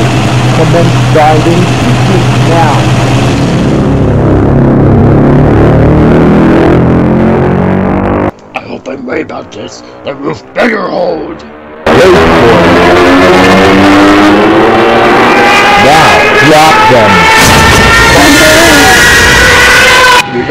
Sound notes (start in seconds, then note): 13.4 dive-bombers diving; 17.3 bombs dropping